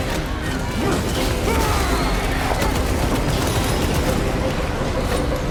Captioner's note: explosions and gunshots firing